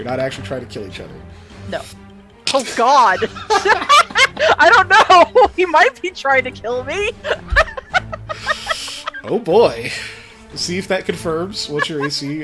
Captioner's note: laughs